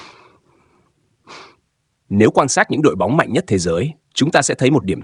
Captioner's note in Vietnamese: khịt mũi